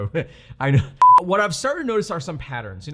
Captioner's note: beep